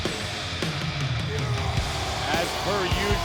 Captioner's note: Braun roars